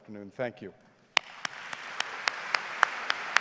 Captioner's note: claps